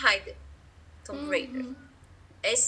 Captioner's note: in English